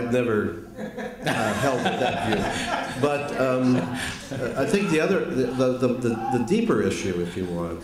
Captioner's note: laughter